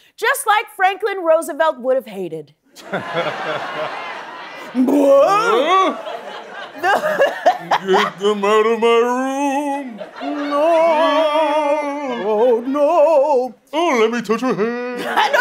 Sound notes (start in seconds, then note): 7.6 laughs; 10.8 ghost noises